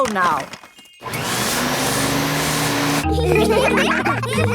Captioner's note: whirring; all laughing